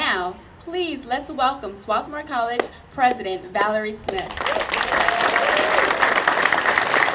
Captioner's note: audience applauding